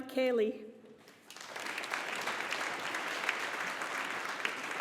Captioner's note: audience applauding